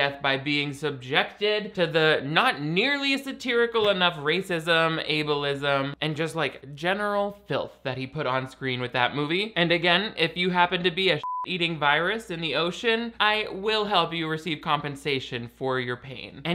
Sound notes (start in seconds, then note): 11.2 beeps